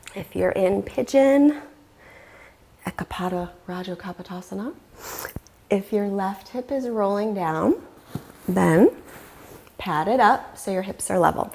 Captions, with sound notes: And either drop your knees into center or soles of feet together, knees apart. (deeply inhaling) Bring a hand on your belly, and a hand on your heart center,